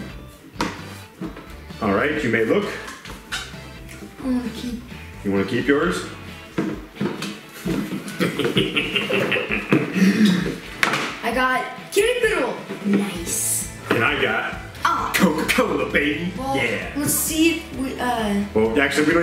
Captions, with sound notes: All right, you may look. - I wanna keep. - You wanna keep yours? (evil laugh) - I got Kitty Piddle, nice. - And I got Coca Cola, baby. - Let's see if, uh--